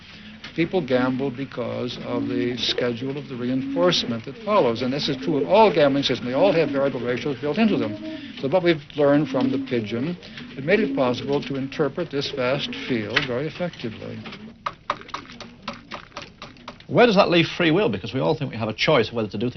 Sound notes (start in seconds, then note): 15.0 pecking; 17.0 voiceover